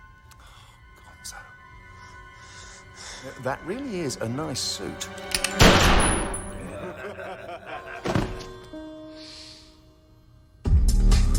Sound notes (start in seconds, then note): 5.6 gunshot; 6.4 laughter